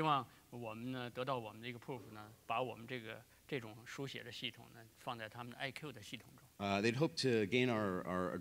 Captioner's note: speaking in Chinese